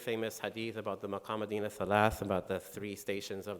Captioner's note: speaking in foreign language